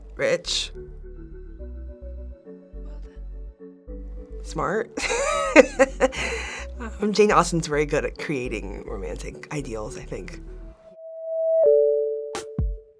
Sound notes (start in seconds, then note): 1.3 gentle music; 5.0 laughing; 10.3 funky music